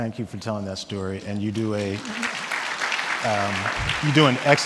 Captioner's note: audience clapping